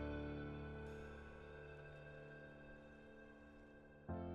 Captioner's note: none